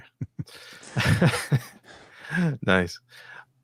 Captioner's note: laughing